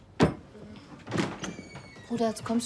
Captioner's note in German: Türöffnen